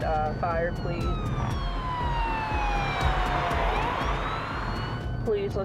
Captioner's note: police cruiser siren